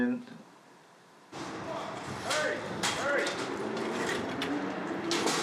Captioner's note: rattling